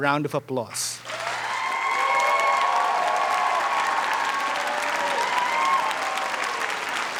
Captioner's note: audience applauding; audience cheering